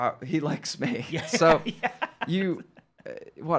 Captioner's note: laughing